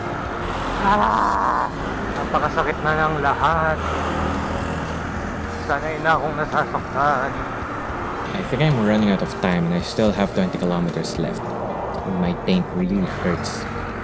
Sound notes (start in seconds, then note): 0.6 frustrated grunt